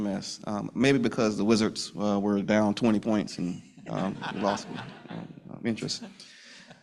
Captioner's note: laughter